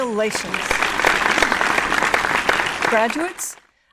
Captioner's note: audience applauds